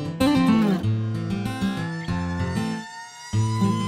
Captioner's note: horns honk